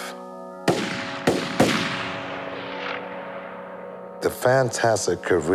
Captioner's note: soft solemn music; gun blasting